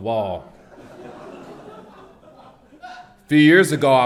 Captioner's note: audience laughs